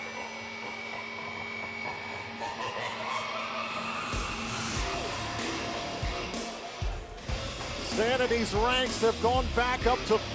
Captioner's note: evil laughter